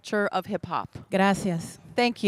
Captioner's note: Spanish language 00:45:04